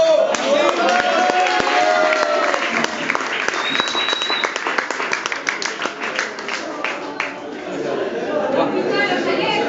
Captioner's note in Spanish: aplausos del público